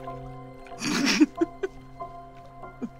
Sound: laughing

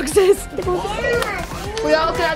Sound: children chattering

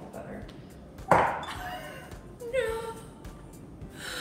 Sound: laughs

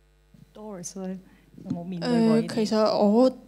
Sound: Cantonese

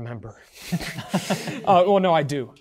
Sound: participants chuckling

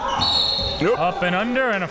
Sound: whistle blows

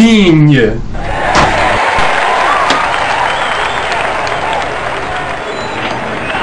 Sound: cheers

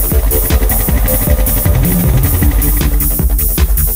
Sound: engine running

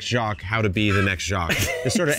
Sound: laughing

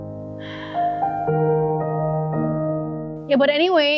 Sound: exhale

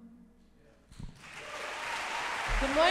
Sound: applause

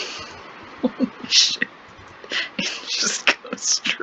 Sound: laughing

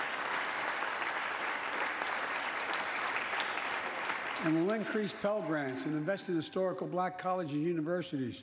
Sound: applause

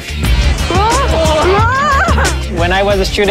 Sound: group laughing

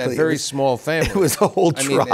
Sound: laughter

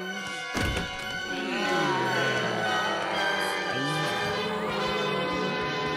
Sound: moaning

